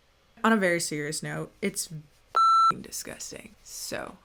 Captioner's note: beep